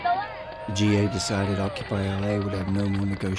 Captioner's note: voiceover